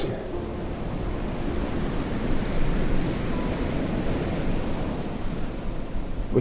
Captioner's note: mellow music; waves crashing